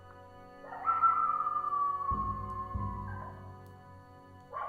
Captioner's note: coyotes howling